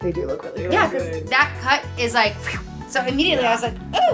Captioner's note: whooshing vocalization